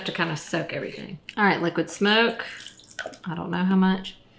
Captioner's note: bottle spritzing